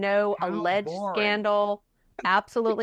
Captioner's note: laughing